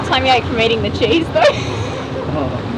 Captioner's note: laughs